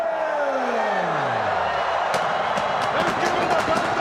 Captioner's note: crowd chatter